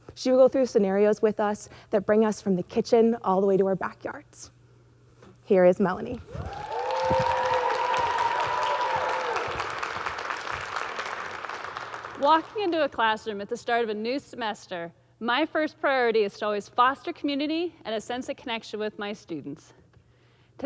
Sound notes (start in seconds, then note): 6.2 audience cheering; 6.3 audience clapping